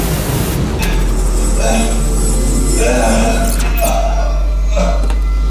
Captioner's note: Michael grunts